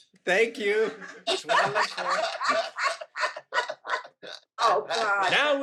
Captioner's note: everyone laughing